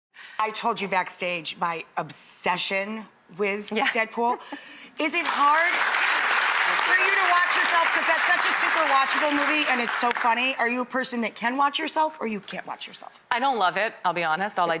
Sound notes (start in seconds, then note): 5.2 audience applauding